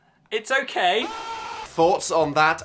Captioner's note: person screaming